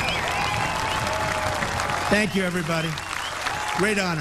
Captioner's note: applause